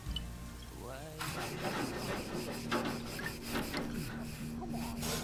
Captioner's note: brush rustling